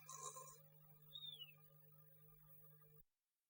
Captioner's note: snores